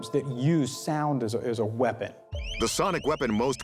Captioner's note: loud chirping